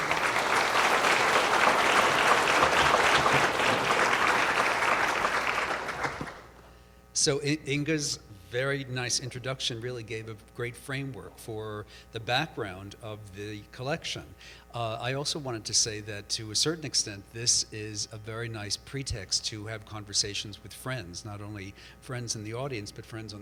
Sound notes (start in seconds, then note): 0.0 audience applauds; 7.0 voiceover